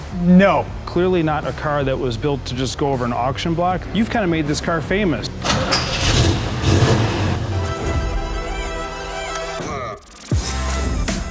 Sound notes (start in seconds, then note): 5.4 engine rumbling; 7.9 dynamic music